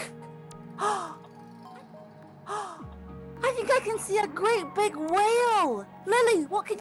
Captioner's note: gasp